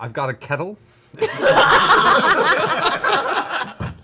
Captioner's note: laughter